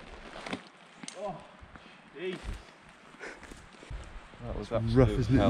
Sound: grunts

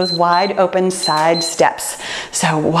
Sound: timer beeps

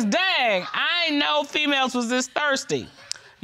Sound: reading

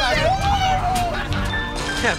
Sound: cheering and whooping

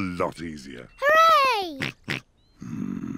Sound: snorts

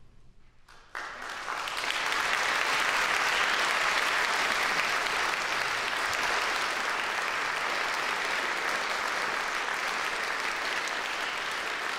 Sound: applause

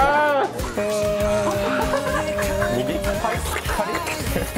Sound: laugh; makes buzzing sound; laugh; makes slurping sounds

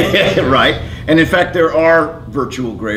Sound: laughs

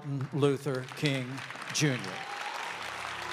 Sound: applause

